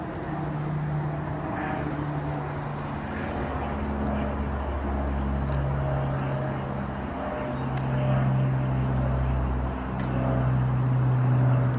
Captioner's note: aeroplane buzzes overhead